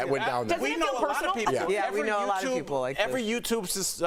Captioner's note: laughter